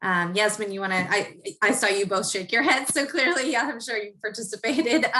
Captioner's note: laugh